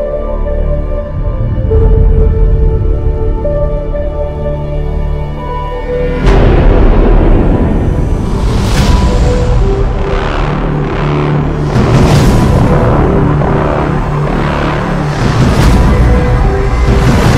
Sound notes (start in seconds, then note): 6.2 explosions; 11.9 dramatic drum beats